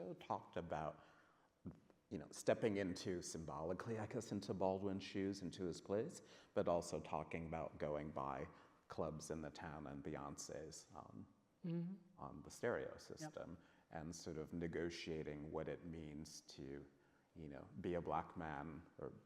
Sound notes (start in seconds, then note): none